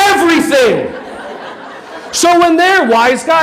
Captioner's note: audience laughing